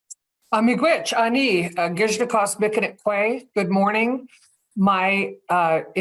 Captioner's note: speaks in indigenous language